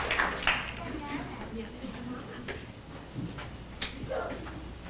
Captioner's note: people clapping